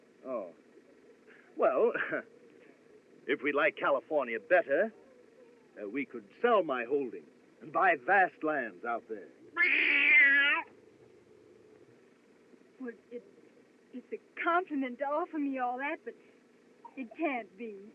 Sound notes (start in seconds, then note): 1.6 chuckles; 9.3 windy Screeching